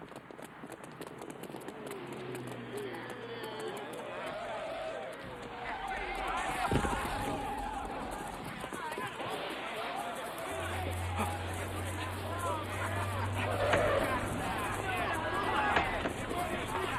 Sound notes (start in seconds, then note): 0.3 feet clacking; 0.3 group buzzing; 4.9 tires screeching; 6.9 Cederic clatters; 9.6 grass rustling; 9.6 group clamoring; 13.7 tires screeching